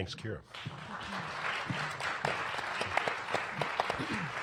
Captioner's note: audience claps